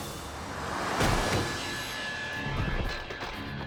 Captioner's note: body thuds